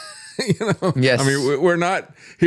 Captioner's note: laughs